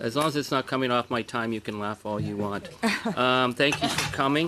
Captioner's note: laughter